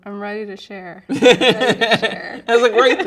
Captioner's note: laughing